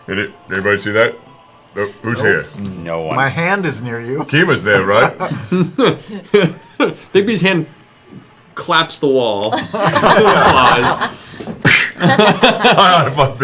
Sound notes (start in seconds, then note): 6.6 chuckles; 11.7 laughter